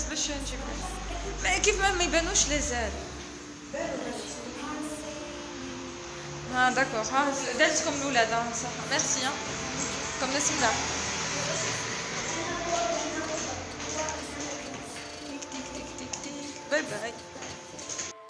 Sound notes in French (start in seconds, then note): 15.1 tik tik tik tik tik